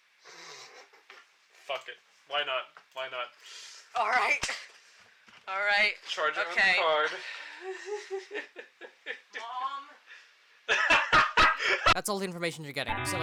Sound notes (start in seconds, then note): 0.3 snickers; 7.7 giggles; 10.6 cackles